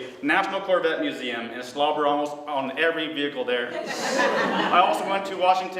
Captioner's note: laughter